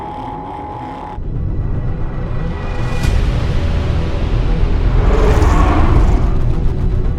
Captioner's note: subs rumbling; tense music